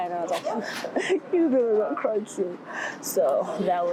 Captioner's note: imitates crying